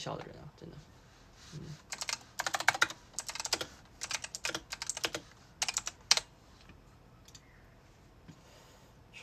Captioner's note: aggressive clickity clacking